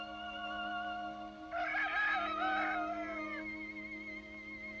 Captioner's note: rooster crows